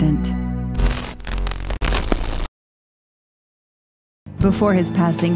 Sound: static buzzes

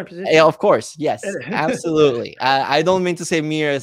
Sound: chuckling

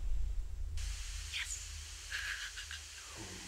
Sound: laughter

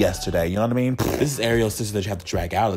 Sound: lip-trilling

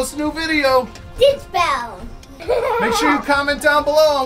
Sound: laughs

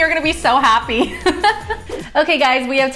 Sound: laughing

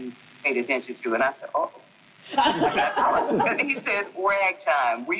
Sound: group laughing

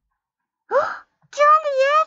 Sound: gasped

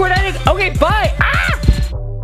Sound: yells; upbeat music

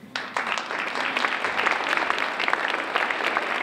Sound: applause

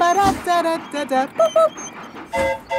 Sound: train whistle toots; mimics train whistle

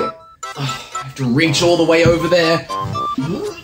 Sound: sigh; strained noise

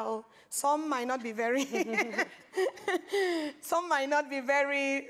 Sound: laughs

